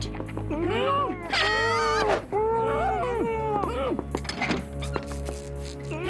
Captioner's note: muffled yells